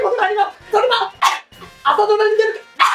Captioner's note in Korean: 켈록